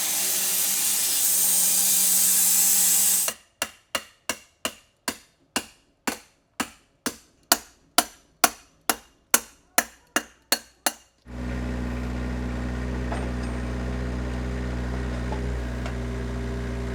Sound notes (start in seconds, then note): 3.6 hammer forcefully hitting chisel; 11.2 engine running calmly